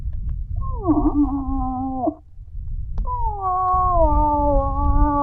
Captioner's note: moose call grunting